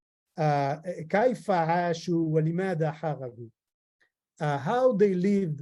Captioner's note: speaking in foreign language